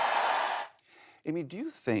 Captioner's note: cheering and applause